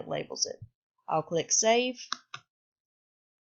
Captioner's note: click